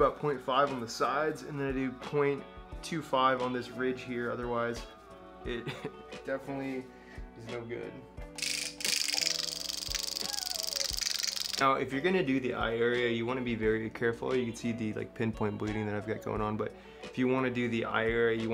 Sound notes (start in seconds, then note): 8.4 microneedle clacking; 8.6 light upbeat music